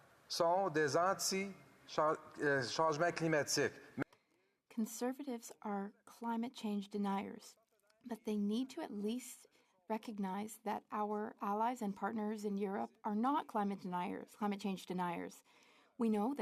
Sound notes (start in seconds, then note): 1.9 speaking French